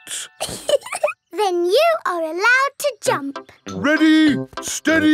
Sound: laughing

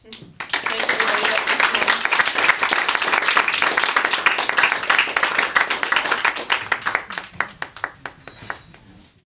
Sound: applause

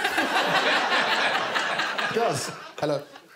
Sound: all laughing

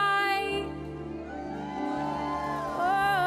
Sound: cheering

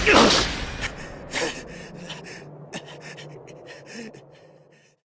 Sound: panting from extreme fatigue

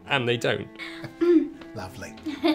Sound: giggles

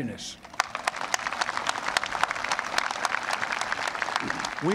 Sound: applause

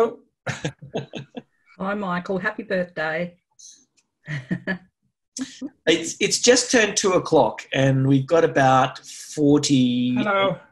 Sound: laughs

